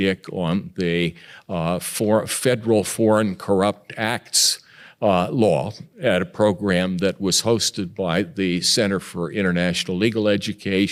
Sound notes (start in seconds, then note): none